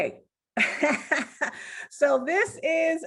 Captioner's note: laughing